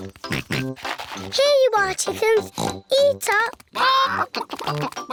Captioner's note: oinks